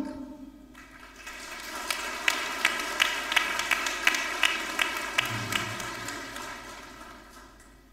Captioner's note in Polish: oklaski